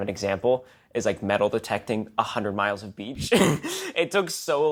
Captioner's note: laughs